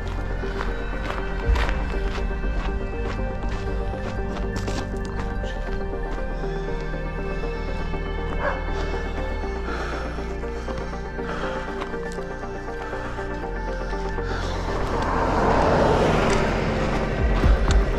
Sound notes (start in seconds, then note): 8.4 dog barking; 11.1 panting